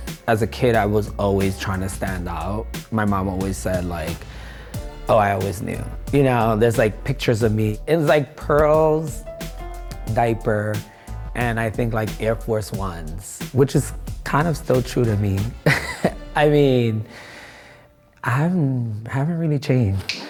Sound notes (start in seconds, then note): 15.6 laughing